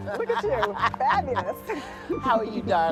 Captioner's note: laughs